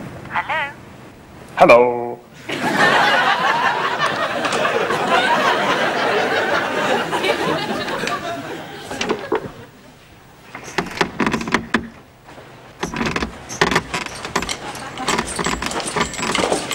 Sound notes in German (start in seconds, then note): 10.3 Bett knarrt